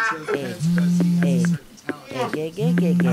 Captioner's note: mobile rings